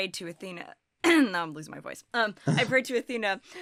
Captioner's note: clears throat